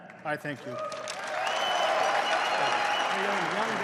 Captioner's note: applause